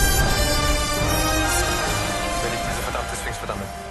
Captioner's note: whirlpool roar; drone hum